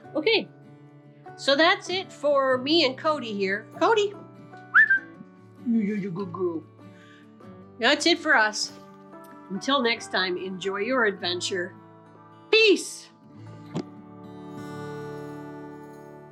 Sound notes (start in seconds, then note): 4.6 whistles; 13.6 gentle music